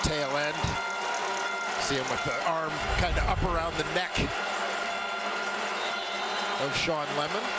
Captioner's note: crowd Noise